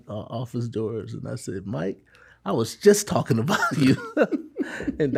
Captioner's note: laughs